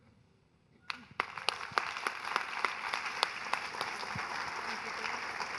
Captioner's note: audience applauding